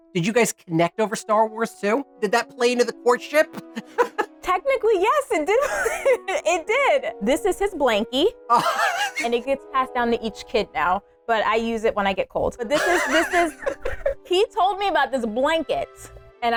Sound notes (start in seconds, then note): 3.5 laughs; 5.5 laughs